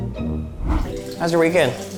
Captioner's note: quirky music ends; urine splashing and tinkling